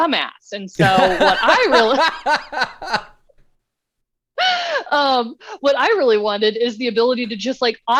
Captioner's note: laughter